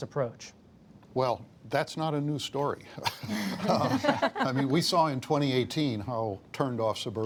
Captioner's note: laughter